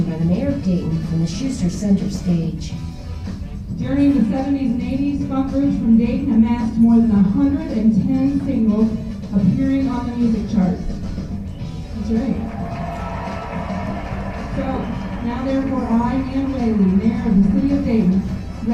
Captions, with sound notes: by the mayor of Dayton in the Shuester center stage. - During the 70s and 80s funk roots from Dayton amassed more than 110 singles of period on the music charts. (applause) So now therefore, I Nan Whaley, mayor of the City of Dayton,